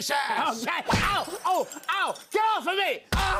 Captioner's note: smack, glass shatters